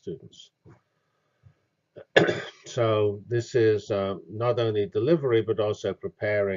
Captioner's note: cough